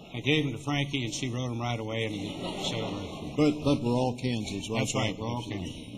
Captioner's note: laughter